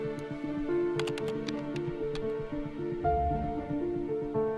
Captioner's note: suspenseful piano music; keyboard typing